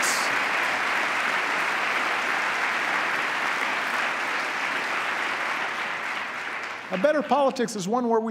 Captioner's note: applause